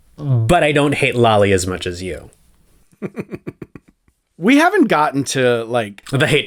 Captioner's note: laugh